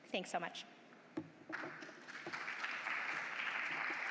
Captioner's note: applause